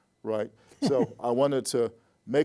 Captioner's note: laughs